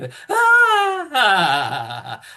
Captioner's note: laughs